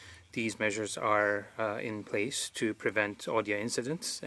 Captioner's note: speaking French